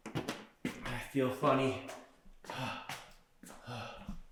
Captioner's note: panting